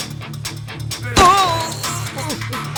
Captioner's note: gunshot